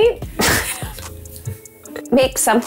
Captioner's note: laughing